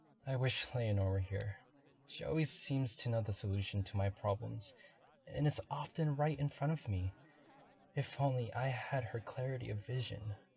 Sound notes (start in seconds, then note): none